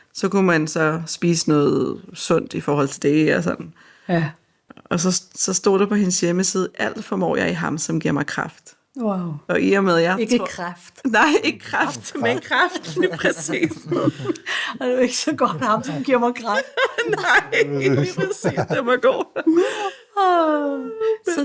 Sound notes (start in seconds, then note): 11.5 laughs